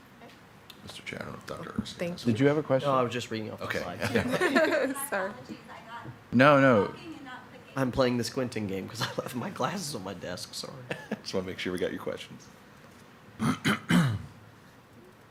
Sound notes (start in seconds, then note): 10.8 chuckles